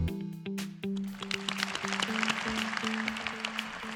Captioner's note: applause